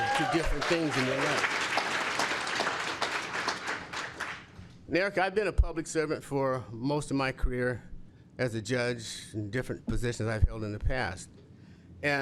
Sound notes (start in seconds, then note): 1.6 cheers and applause